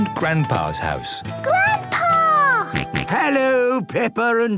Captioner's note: George snorts